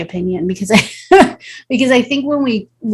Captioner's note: chuckles